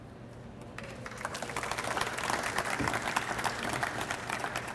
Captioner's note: audience applauds